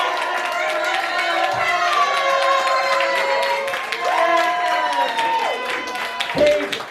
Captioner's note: cheering